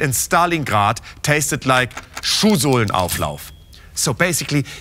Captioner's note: speaking german